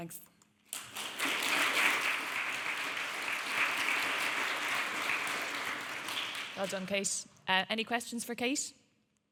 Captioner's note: audience clapping